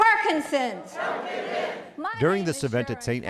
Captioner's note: crowd